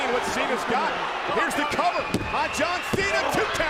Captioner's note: hand pounding